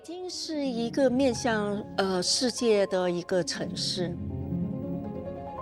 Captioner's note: speaking foreign language